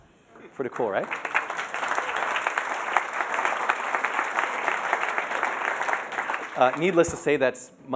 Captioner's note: applause